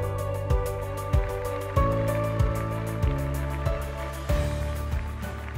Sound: crowd applauding

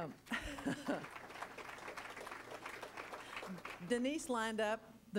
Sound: laughs; crowd applauding

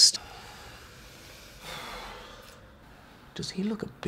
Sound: sigh

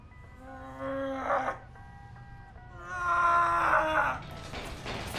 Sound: Sean grunting

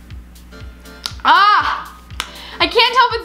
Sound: yells

